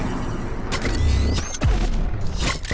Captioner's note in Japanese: ブーン カチッという音